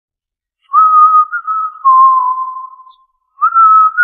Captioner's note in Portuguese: assobio